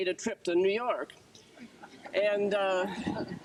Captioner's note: group chuckles